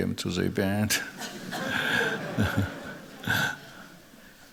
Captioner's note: laughter